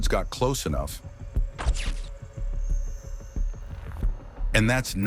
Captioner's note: snap sound effect